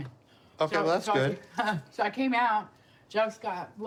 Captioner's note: laughs